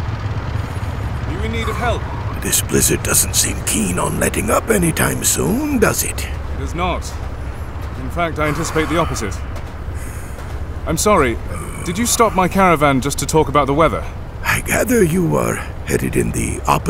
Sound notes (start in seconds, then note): 0.8 yelling; 1.7 snow crunching between feet; 11.4 confused